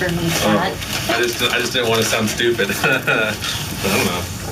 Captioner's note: laughs